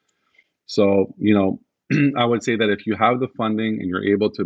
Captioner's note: clears throat